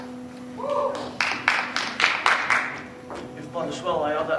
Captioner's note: applause